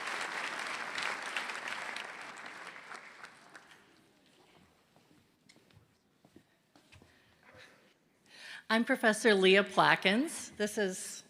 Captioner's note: applause